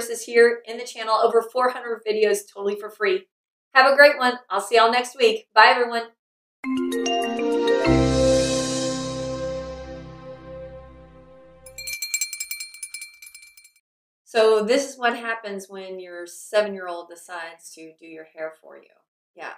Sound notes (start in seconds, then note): 6.6 gentle jingle; 11.6 bell jingling